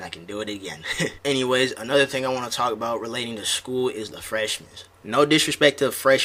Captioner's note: chuckles